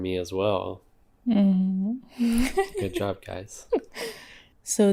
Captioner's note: laughs